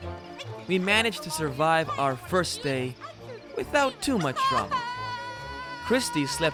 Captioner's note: sobs